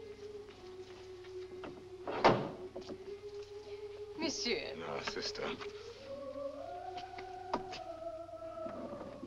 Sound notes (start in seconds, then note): 2.1 gate opens